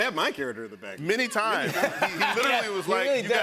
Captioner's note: laughter